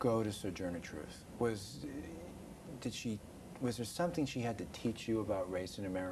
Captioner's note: laughing